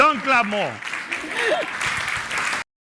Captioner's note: group laughing; audience applauding